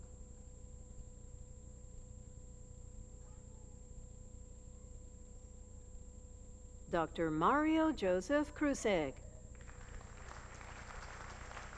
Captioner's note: applause